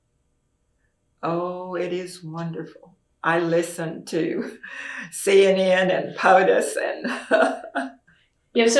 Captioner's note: laughs